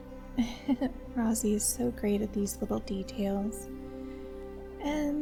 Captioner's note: quiet giggle